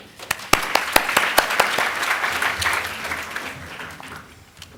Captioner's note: applause